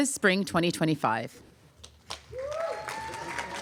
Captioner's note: applause